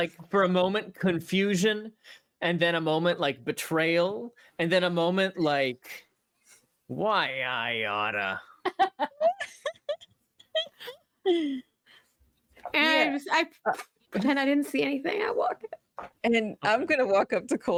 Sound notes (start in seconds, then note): 8.6 players laughing